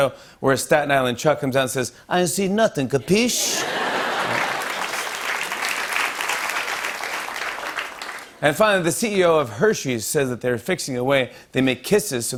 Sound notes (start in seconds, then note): 3.1 laughter and applause